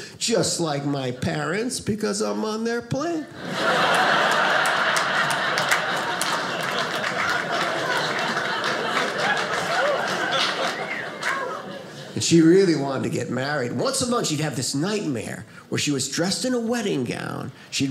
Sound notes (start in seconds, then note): 3.3 audience laughing